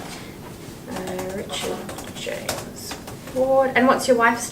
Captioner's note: keys clicking